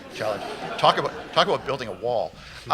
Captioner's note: laughter